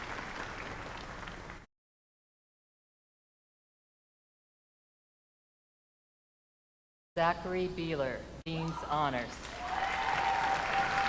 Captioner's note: names being called